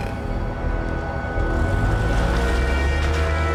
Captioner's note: car engine growling; ominous music